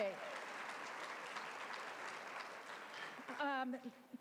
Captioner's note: applause